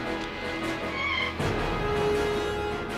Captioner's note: tires squealing